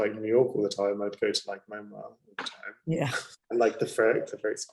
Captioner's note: laughing